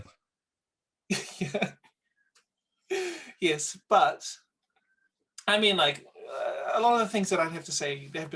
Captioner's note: laughs